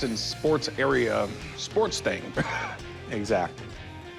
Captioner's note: chuckles